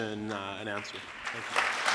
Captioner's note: applause